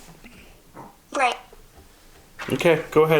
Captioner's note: electronic speaks "break"